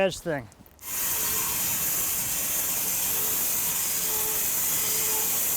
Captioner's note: electric saw screeching